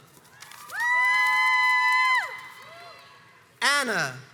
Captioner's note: crowds cheers and applauds